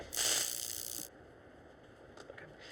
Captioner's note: cattle prod sizzles